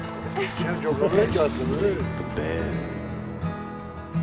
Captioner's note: speaking Russian